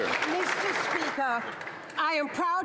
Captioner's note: some Applause